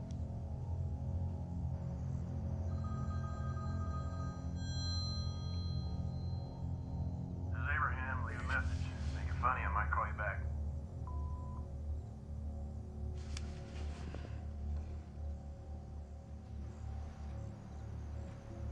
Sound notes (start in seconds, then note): 0.3 suspenseful music; 2.8 phone ringing; 11.1 tone beeps; 13.5 soft suspenseful music